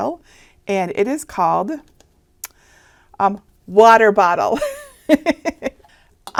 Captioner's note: laughing